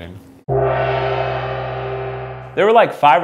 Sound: gong reverberates

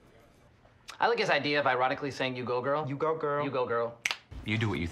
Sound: both snap

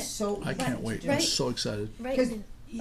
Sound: voiceover

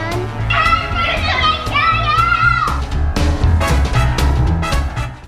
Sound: yelling with excitement

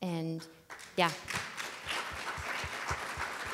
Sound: applause

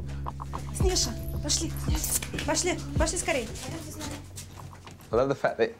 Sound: speaking in foreign language

